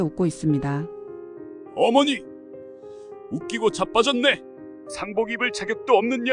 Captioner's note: sneering